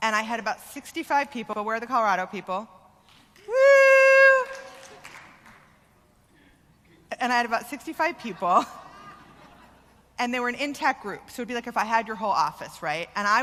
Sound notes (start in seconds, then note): 4.3 clapping; 8.2 laughter